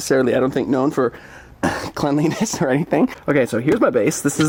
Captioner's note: coughs